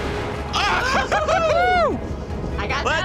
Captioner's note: laughing